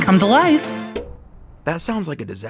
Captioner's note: TV turns off